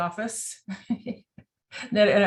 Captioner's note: chuckles